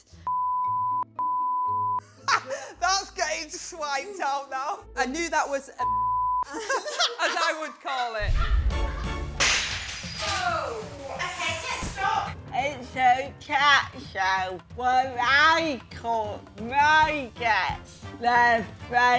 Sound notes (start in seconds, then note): 8.3 laughs; 9.1 pottery smashes